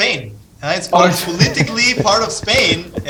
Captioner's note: laughing